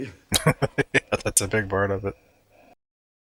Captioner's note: laughing